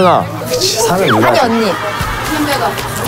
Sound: ping; pong

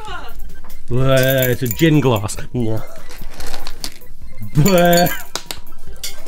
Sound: spitting skittles in glass

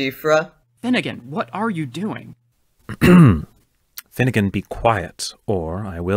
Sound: clears throat

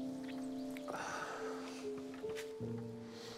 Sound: Willard sighs

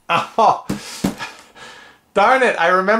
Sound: fist banging

